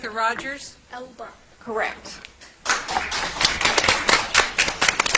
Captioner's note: audience applauds